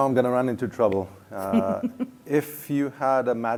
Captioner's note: laughter